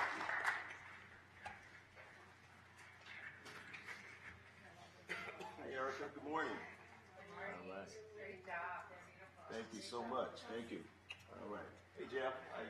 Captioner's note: applause